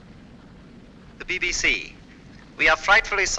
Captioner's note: radio broadcast